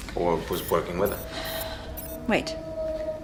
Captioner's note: beeps